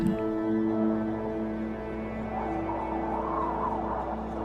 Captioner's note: wind whistling